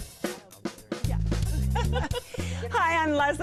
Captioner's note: laughs